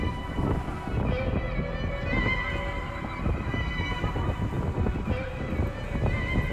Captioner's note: tense music; wind gushing